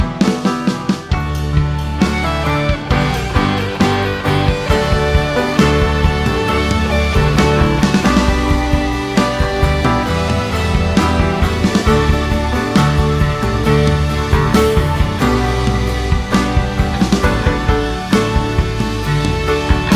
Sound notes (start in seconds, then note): 9.4 laugh